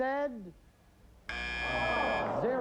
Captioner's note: buzzer